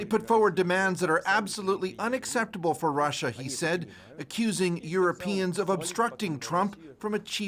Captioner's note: speaking alternate language